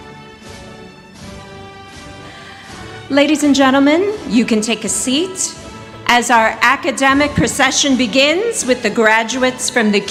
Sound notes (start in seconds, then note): none